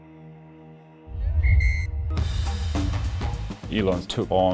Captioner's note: ref whistle blows